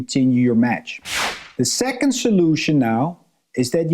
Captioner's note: transition whooshing